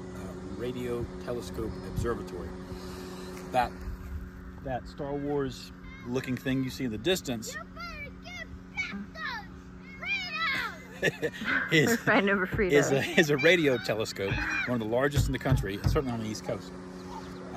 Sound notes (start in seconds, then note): 7.4 kids fighting; 8.1 laughing